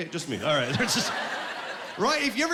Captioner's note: laughing